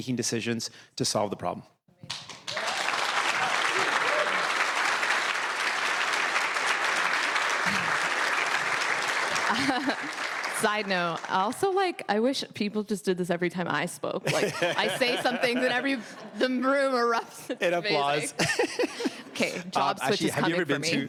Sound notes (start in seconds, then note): 6.4 cheers and Applause